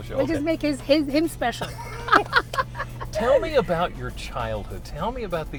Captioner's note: laughter